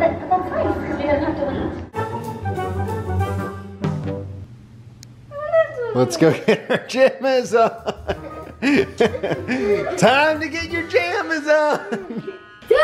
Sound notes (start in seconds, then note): 1.9 playful music; 7.9 laughing